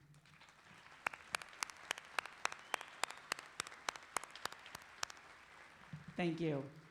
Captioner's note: clapping